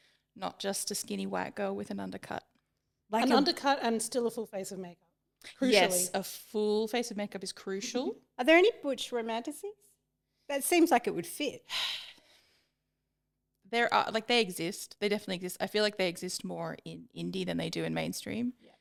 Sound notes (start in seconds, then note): 11.6 sighs